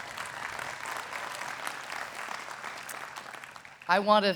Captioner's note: audience applauding